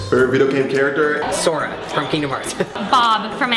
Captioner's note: chuckles